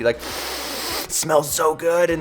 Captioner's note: sniffs loudly